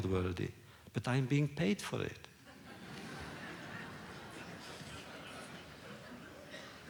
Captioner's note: laughter